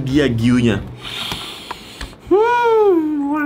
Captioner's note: sniffing